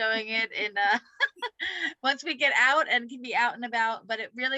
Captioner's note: laughter